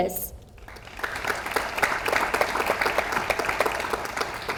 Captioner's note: audience applauds